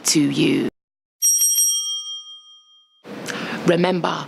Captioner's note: bell rings